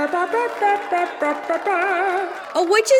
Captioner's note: applause